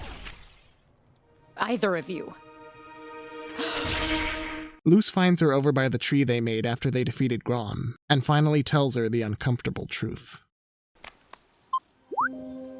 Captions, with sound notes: Either of you. [inhales sharply] - Luz finds her over by the tree they made after they defeated Grom and finally tells her the uncomfortable truth. [phone beeps]